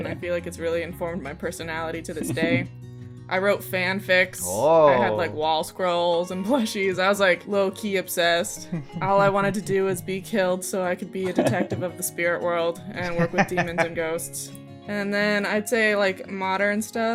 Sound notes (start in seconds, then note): 14.3 laughter